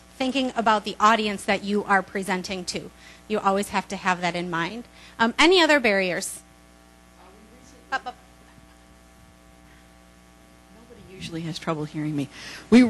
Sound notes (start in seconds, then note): 7.3 voiceover